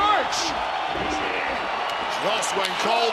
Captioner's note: crowd cheers